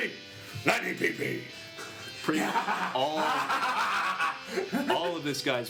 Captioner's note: laughs maniacally